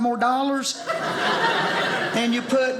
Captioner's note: audience laughing